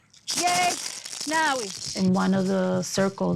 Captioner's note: speaking in foreign language